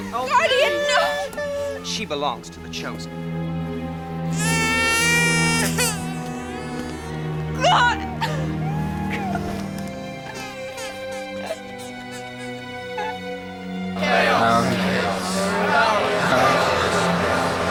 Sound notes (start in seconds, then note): 4.3 baby crying; 7.7 crying; 13.7 chanting